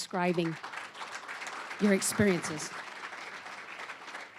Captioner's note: applause